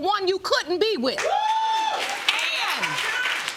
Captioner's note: audience whooping